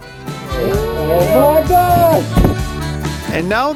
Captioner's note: cheers